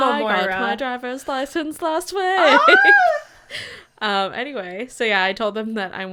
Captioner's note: Moira Rose voice